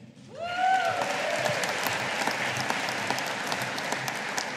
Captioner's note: audience applauding